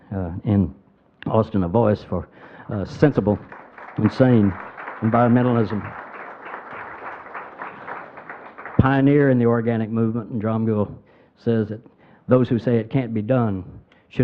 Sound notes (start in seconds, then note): 5.9 crowd applauding